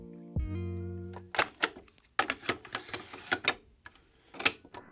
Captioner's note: tape clicking